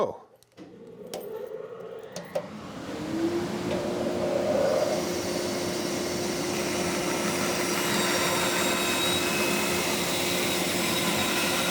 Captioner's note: saw whirring